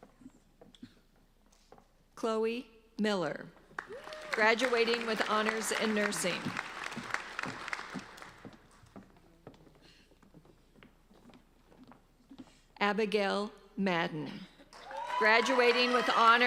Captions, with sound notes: Chloe Miller. Graduating with honors in nursing. (applauding) Abigail Madden.